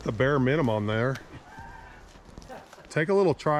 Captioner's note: laughing